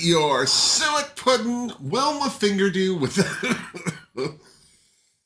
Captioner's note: cough